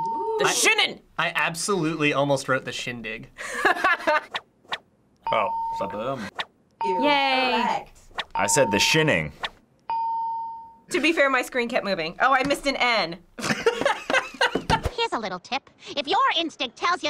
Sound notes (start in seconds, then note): 3.3 laughing; 10.0 ding; 13.4 laughing